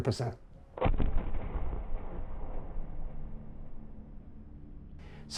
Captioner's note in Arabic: دوي مدوي